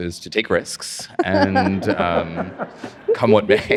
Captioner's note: audience laughs